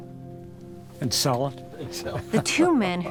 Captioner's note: laughs